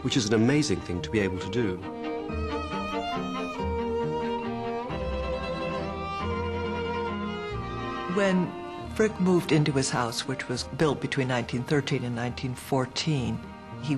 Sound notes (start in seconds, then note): 2.3 gentle orchestral music; 8.4 voiceover